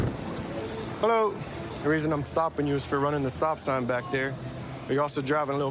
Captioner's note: none